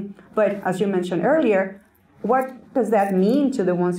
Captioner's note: none